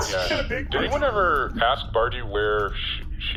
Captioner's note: overlapping chatter